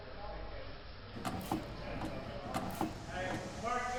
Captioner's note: clanking